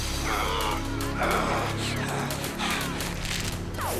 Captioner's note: Lamont groans